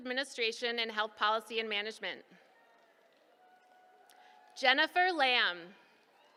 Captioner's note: applause